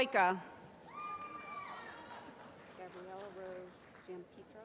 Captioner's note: cheering